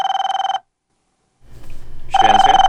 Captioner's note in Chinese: 電話聲